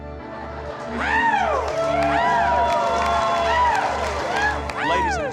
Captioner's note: cheering, clapping